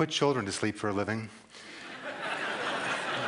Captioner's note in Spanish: Risas